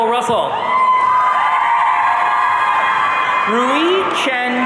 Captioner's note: audience cheering